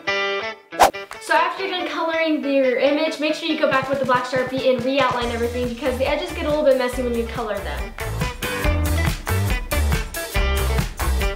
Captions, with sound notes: (swooshing) So after you've been coloring your image make sure you go back with a black Sharpie and re-outline everything because the edges get a little bit messy when we color them.